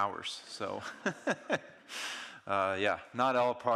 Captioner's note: audience laughing